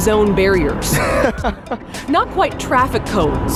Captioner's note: laughs